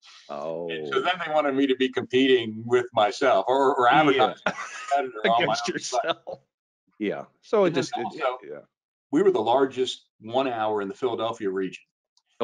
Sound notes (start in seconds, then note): 2.6 laughs